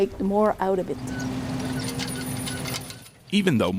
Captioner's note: metal clattering